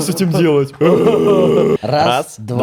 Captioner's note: zombie sounds intensify